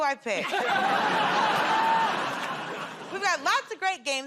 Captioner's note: laughter